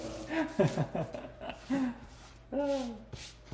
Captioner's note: laughing